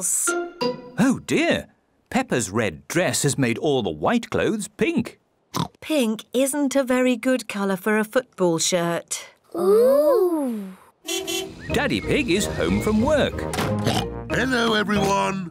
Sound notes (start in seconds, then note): 5.5 oinks; 11.0 car horn toots; 13.7 oinks